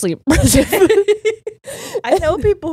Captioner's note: all laughing